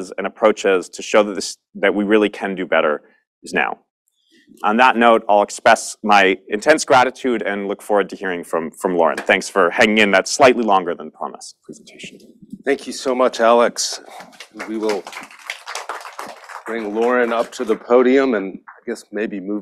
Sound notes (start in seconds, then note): 15.3 applause